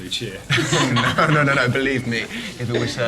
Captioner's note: laughter